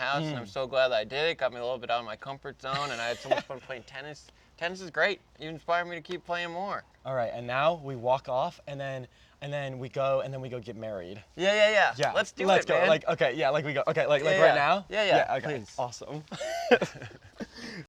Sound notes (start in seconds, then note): 16.1 laughs